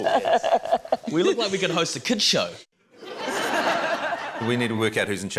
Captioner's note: laughter